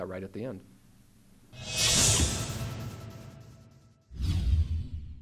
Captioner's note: technical swoosh